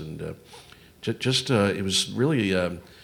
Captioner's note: none